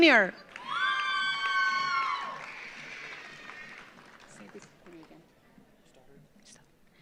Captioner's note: audience applauds; audience cheers